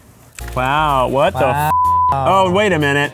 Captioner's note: upbeat music; beep